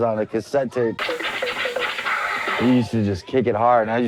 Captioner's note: records scratching